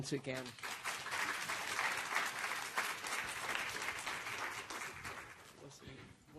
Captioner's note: applause